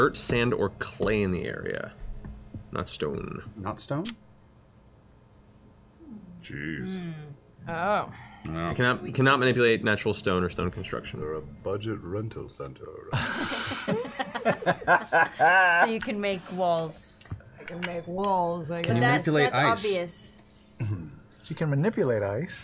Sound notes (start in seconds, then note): 13.1 laughing